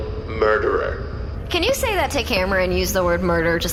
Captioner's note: back to sexless prosecutor accent